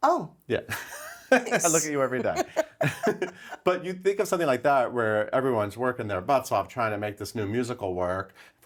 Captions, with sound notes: - Oh - Yeah. (laughing) I look at you every day. (both laughing) But you think of something like that where everyone's working their butts off trying to make this new musical work.